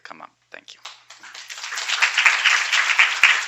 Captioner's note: applause